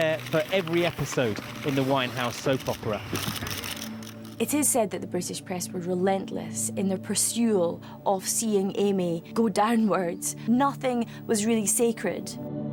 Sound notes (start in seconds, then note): 3.4 cameras flashing